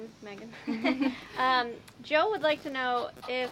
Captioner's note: group laughing